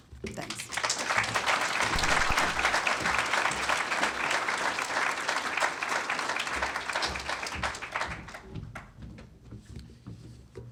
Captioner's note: applause